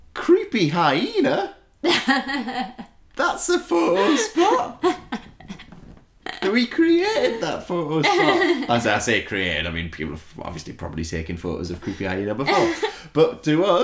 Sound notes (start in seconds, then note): 2.1 laughs; 3.8 laughs